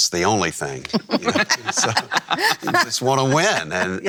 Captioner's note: everyone laughing